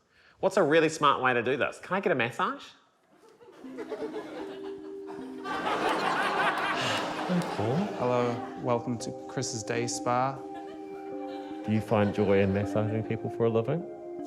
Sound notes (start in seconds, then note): 4.8 laughter; 6.7 sighs